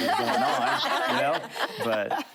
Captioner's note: laughter